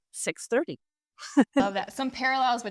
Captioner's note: laughs